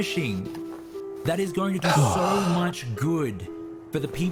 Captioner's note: relieved sigh